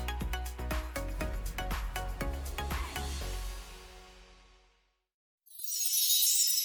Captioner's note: chime sound